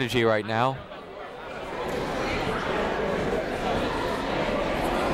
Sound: people talking in the crowd

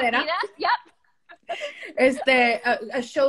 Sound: speaking spanish

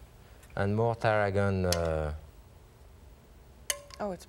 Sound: spoon clinging

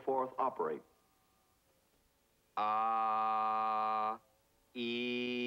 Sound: vowel sounds

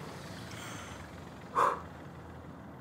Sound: exhaling

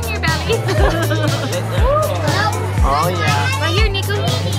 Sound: laughter

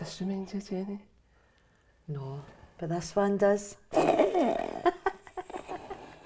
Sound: laughter

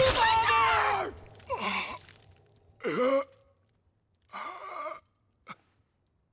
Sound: groaning

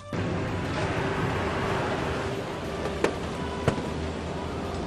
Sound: bulldozer engine roars

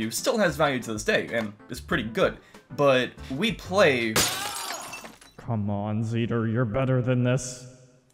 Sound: glass break

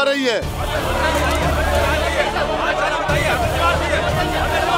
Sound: indistinct chatter

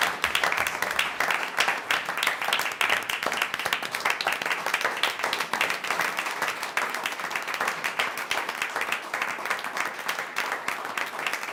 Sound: applause

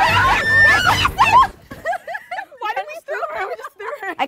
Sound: yells; laughs

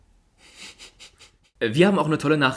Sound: chuckles

